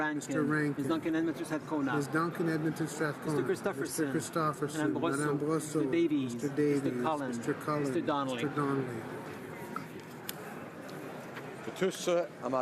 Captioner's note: speaking French